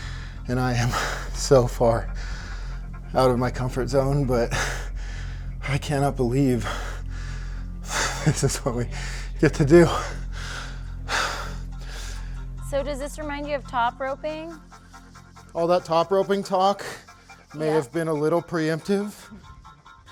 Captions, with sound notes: and I am so far out of my comfort zone, but I cannot believe this is what we get to do. (panting) So does this remind you of top roping? All that top roping talk may have been a little preemptive.